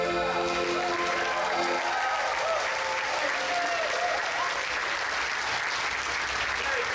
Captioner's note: audience applauds; audience cheers